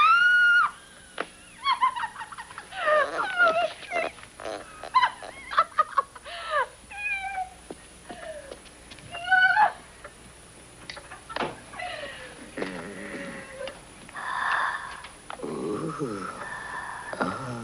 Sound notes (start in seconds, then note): 0.0 screaming with joy; 1.6 laughing; 9.2 shouting with joy; 12.5 E.T. grunting; 15.4 heavy breathing